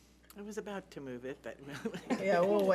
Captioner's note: chuckling